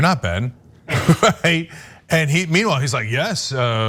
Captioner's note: laugh